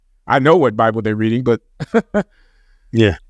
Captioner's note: chuckles